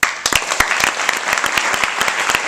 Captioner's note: audience clapping